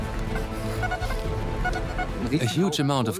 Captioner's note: metal detector beeps